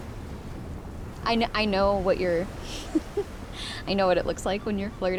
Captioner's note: giggles